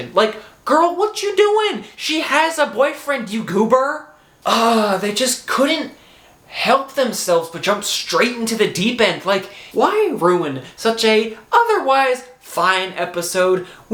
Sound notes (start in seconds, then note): 4.4 sigh